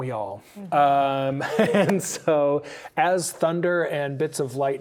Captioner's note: laughing